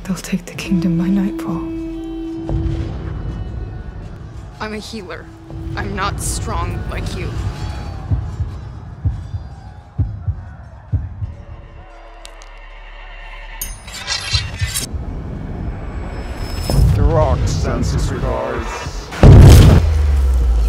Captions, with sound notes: They'll take the kingdom by nightfall. [explosion] I'm a healer. I'm not strong like you. [heartbeat] [neck cracking] [metal scraping] Deroc sends his regards. [explosion]